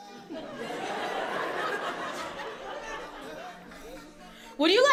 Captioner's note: audience laughs